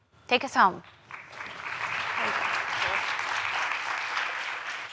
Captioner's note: applause